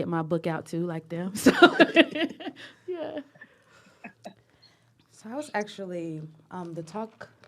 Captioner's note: laughter